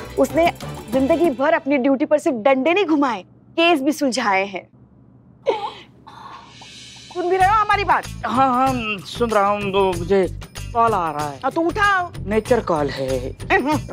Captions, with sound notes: didn't just wave around this baton the whole time. She has also solved cases. [groaning] - Are you even listening to me? - Yes, I am. - I just had this call. - Pick it up then. Nature's call.